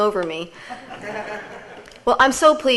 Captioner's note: audience laughs